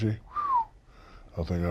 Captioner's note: whistles